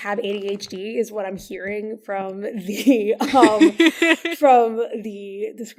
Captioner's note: laughs